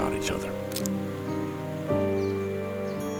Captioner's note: pine cone crunches; pensive music